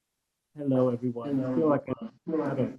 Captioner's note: faintly speaking